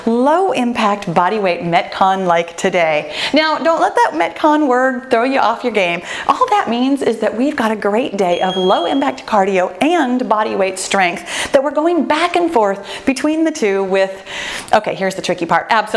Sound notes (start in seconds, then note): 9.3 bell chimes